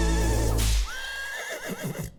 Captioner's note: whip cracking and horse neighing